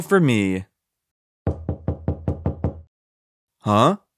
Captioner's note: knocking